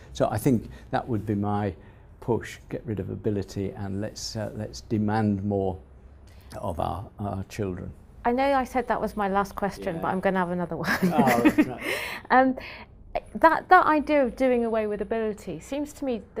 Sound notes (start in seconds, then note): 10.9 laugh